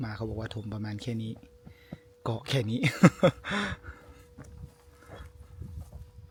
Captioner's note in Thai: เสียงหัวเราะ